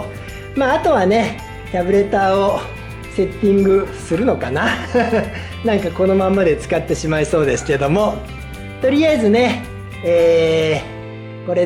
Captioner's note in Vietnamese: cười